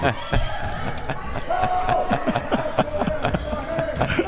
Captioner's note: both laughs